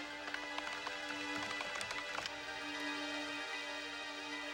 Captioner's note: keys clicking